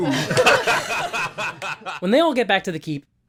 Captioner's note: laughter